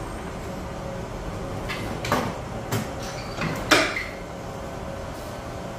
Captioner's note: press machine noise